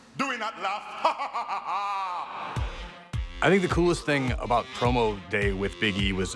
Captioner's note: laugh